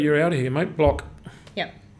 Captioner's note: pokes table